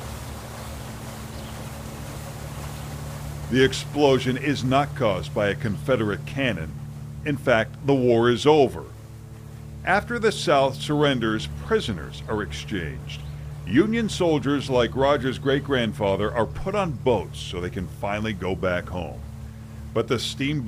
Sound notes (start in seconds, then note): 1.1 steamboat whirring